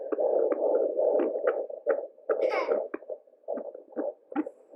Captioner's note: baby monitor throbbing